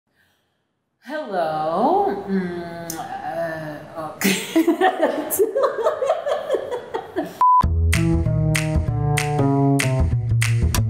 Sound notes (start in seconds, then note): 2.4 stammering; 4.2 both laughing; 7.6 upbeat jazz music